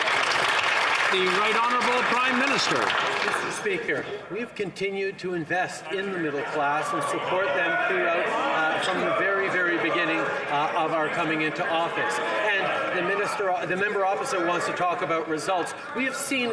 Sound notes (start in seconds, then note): 2.4 some Applause